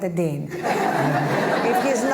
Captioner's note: laughter